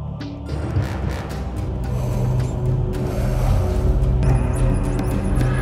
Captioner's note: throttles increased; warp engines engaging